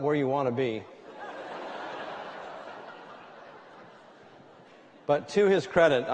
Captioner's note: laughter